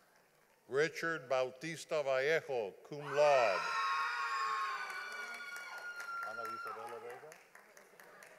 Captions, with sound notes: Richard Baltista Vallejo, cum laude. (audience applauding)